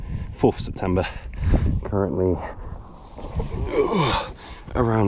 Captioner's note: groans